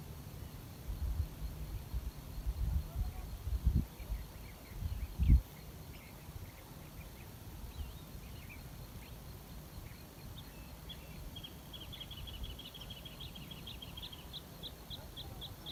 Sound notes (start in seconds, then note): 3.2 voices in background; 6.5 birdsong in background